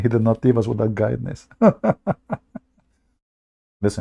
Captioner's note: Ketawa